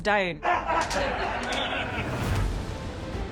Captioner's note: all laughing